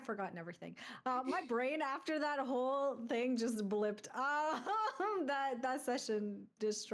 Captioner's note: chuckles